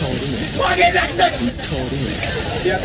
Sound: shout of Fury

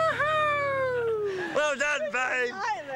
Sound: cheering

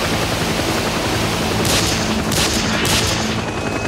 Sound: gun shots

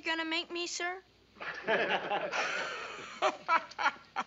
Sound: all laugh

